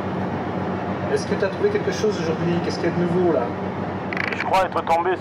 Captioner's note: foreign spoken audio